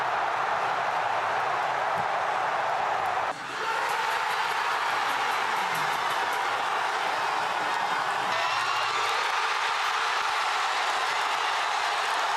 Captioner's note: applause